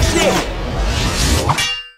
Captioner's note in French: Bruit de vitesse; Bruit de claquement métallique